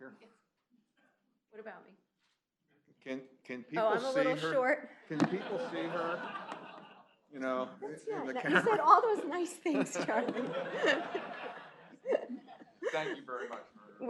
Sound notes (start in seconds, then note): 9.6 laughter